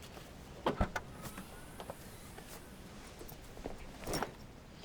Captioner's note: car boot clicks